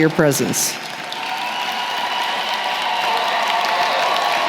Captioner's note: applause